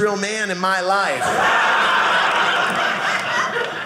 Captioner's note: audience laughing